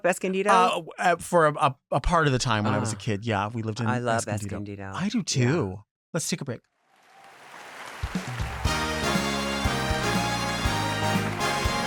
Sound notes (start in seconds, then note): 6.9 audience applauds; 8.4 upbeat music